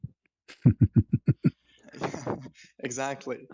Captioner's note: ketawa